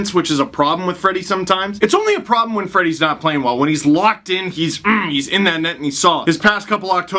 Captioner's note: grunt